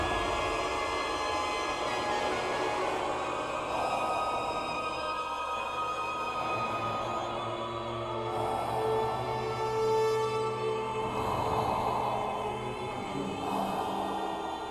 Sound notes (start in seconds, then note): 3.5 heavy breathing